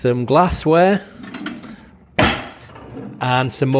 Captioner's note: drawer clunking shut; drawer sliding open